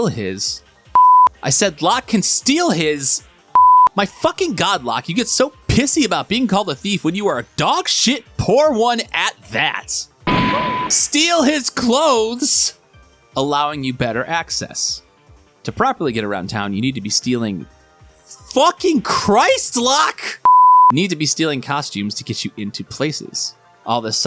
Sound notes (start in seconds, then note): 10.2 gunshot; 10.8 fart